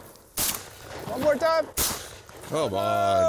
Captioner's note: gun fires